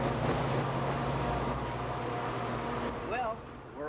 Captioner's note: train rumbling